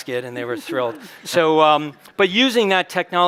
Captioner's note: chuckles